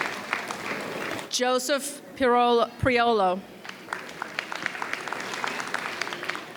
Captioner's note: audience applauds; audience applauds